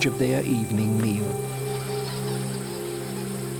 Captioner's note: bats squeaking